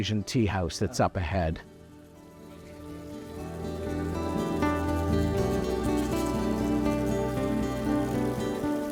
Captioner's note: insects calling; streamwater falling